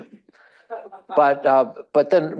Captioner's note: attendee laughing